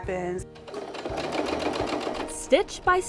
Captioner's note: sewing machine whirring